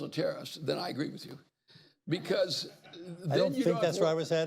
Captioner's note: laughter